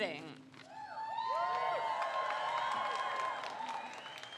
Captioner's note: crowd cheers